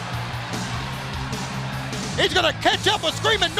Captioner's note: crowd chatter